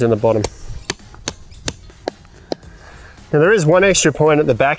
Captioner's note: hammer bangs